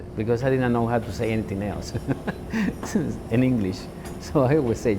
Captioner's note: laughs